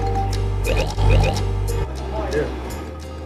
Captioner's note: bird clicking